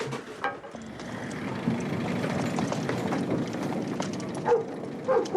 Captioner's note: car engine revving; dog barking